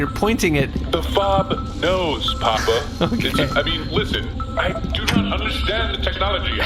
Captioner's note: speaking into mic